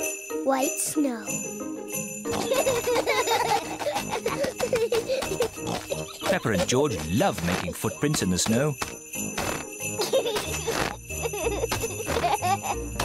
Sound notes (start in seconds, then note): 2.3 peppa and george laugh